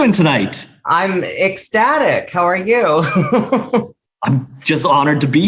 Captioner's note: laughs